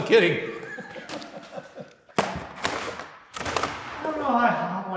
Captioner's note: laughing